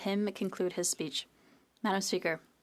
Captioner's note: speaking French